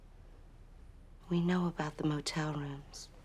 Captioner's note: none